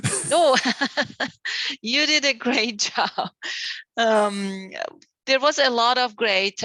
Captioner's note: laughs